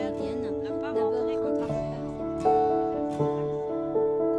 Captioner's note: French